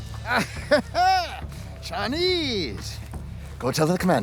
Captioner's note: laughs